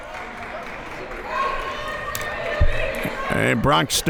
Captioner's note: crowd members shouting